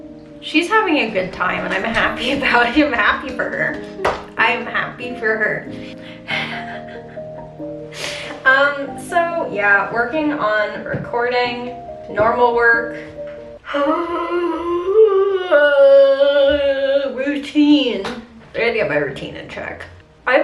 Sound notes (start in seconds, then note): 6.2 laughing; 13.6 yawning